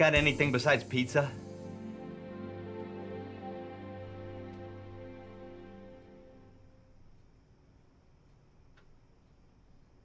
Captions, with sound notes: Yeah, it's Jewels. You guys got anything besides pizza? (gentle music) (insects chirping)